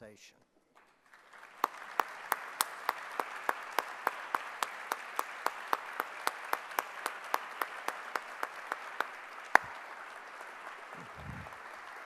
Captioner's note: clapping